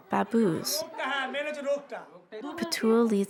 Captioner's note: speaking Indian language